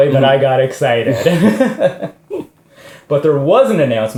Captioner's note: laughs